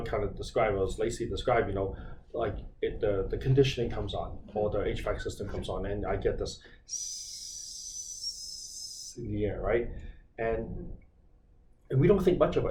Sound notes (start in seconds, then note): 6.8 hissing sound